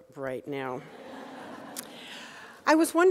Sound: audience laughing

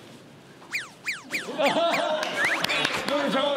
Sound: flapping

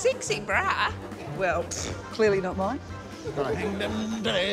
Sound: scoffs

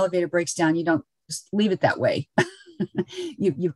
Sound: chuckles

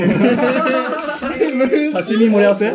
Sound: laughing

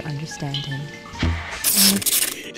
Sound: audio static

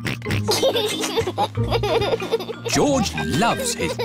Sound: oinks and laughs

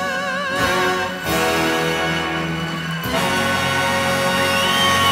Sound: audience applauding

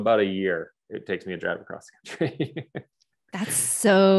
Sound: laughs

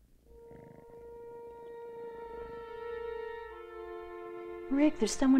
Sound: ominous music; cat softly purring

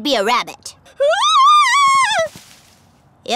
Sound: screaming

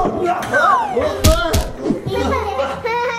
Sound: glasses thud; Dracula splutters; children laugh

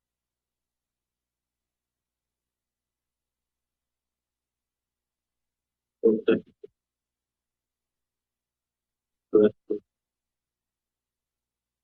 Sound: silence; silence

